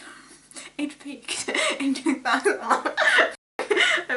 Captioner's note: laughs; laughing